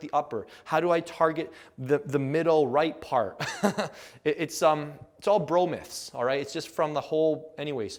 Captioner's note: laugh